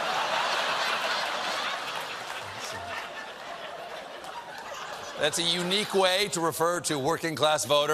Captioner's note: laughter